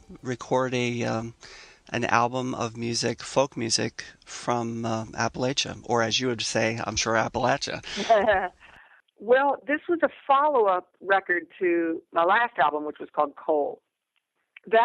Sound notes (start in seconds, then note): 7.8 laughter